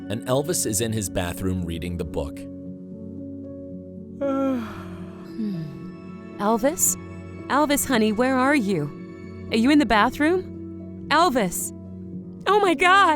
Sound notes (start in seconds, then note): 4.2 yawns